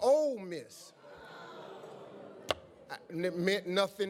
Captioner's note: crowd groans